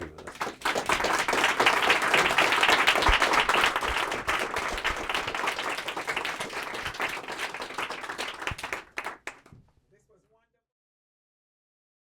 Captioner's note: applause